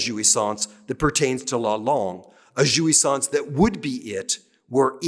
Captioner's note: speaking french